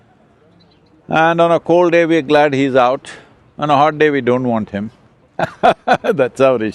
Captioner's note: laughs